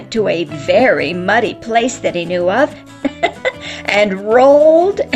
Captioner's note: giggles